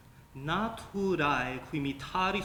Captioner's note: speaking latin